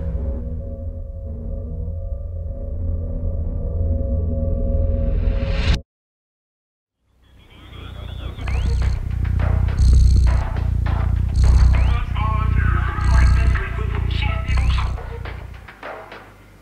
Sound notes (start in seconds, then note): 9.5 cat purring